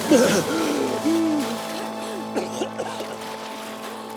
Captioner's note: coughing; gasping